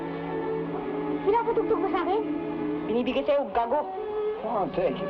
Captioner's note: people speaking in Tagalog